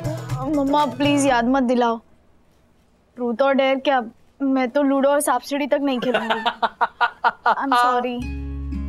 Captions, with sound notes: Mom, don't remind me about that. Forget 'Truth and Dare' I'm not going to play Ludo or Snakes and Ladders also. [laughing] I'm sorry.